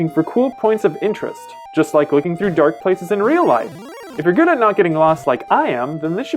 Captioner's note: none